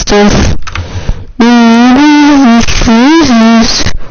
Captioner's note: humming i guess